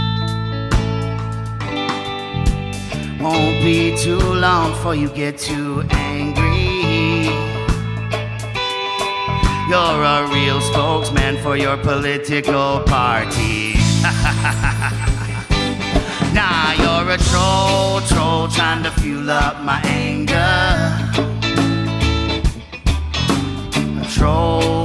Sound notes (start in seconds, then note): 13.7 diabolical laugh